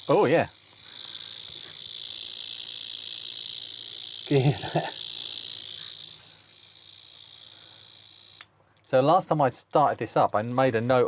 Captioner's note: drill Whirring